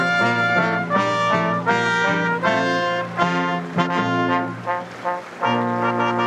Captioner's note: none